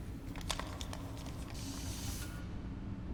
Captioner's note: air hissing